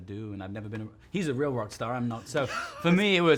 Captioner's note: laughs